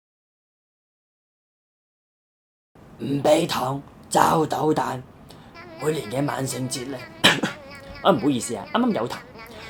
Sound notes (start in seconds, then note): 7.2 cough